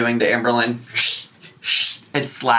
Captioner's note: hissing